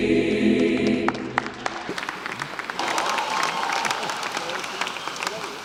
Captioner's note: applause